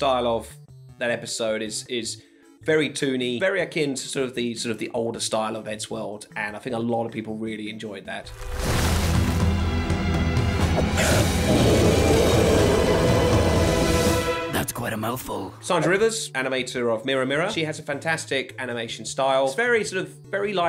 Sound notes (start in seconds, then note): 11.0 robotic dinosaur roar